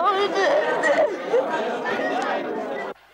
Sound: Sandra cries

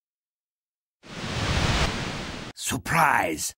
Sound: decloaking sounds

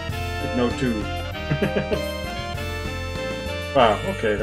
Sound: chuckles

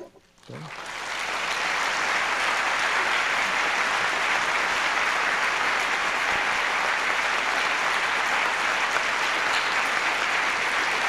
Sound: applause

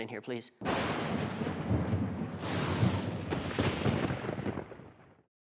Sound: thunder

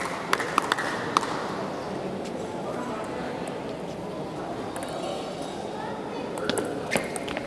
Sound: applause

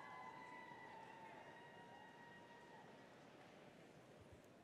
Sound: cheering continues

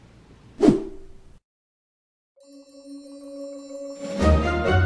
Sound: screen whooshes

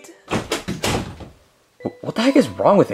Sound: door thuds

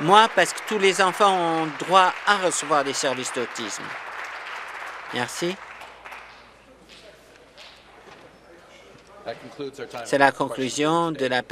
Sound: applause

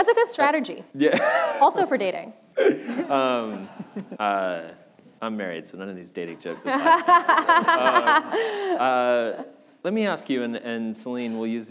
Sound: laughter

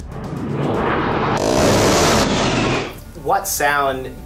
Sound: Warthog firing

